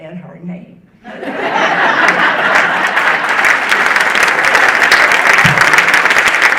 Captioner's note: audience laughing and applauding